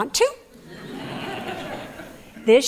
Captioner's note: laughter